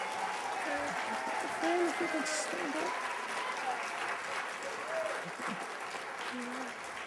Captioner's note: applause